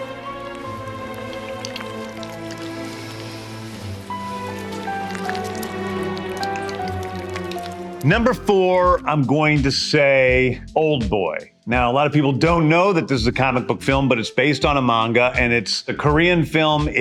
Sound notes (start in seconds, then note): 2.0 sea creature squishes; 4.6 squishy chewing